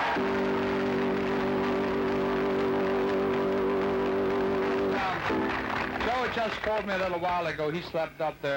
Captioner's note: applause